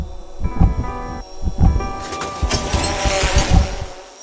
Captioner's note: drone buzzing